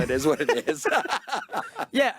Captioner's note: both laughing